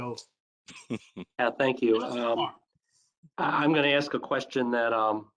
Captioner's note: laughter